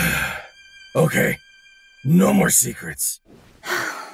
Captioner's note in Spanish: suspiro